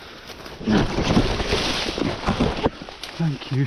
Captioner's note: leaves rustling